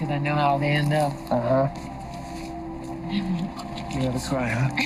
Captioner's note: laughs; chuckles